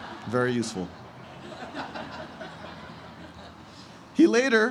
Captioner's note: laughter